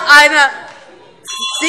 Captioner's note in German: Glockenzeichen